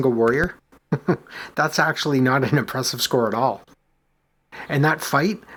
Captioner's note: chuckles